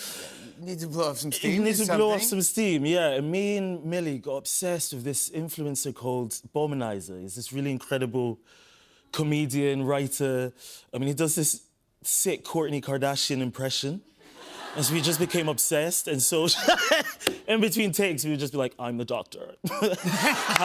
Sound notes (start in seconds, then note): 16.6 laughs